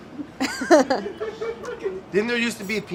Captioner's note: all laughing